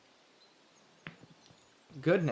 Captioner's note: small thud